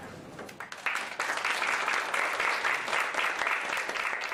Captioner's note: applause